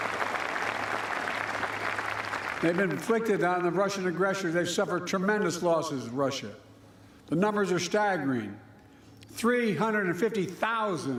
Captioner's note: applause